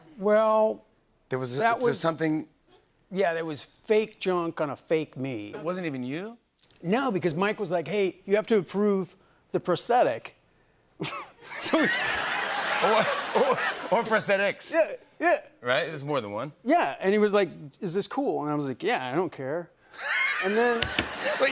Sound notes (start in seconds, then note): 11.0 laughter